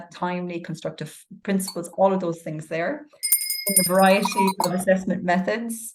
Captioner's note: bell rings